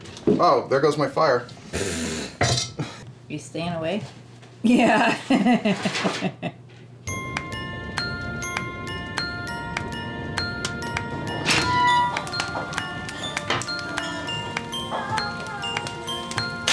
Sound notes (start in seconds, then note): 4.7 laughing; 7.0 bright music